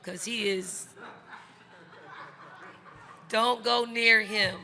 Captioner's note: crowd laughing